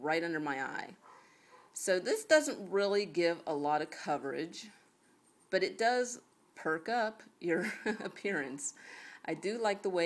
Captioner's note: chuckles